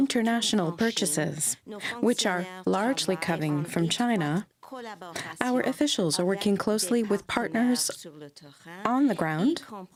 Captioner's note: speaking french